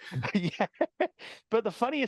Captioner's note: laughing